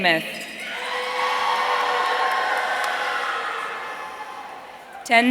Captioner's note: audience cheering